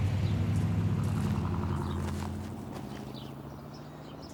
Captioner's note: car rumbles